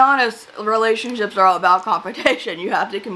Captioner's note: laughs